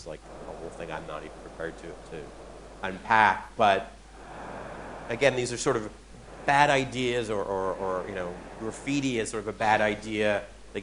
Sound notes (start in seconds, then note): none